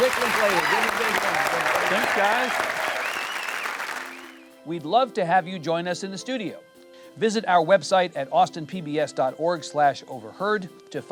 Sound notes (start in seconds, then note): 3.1 audience applauds